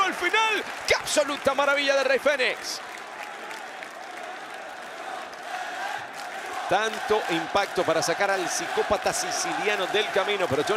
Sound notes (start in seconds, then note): 4.1 applause